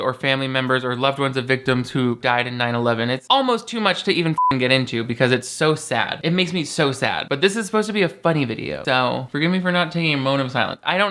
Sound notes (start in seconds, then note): 4.3 beep